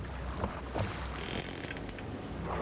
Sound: whale clicks

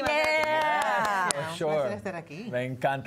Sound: Algarabía y aplausos

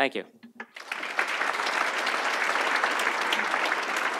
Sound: audience applauds

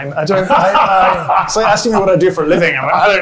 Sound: laughs

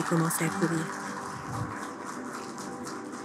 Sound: applause

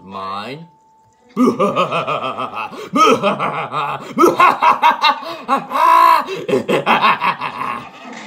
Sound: Bowser laughing

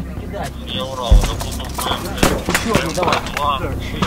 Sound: radio exchange

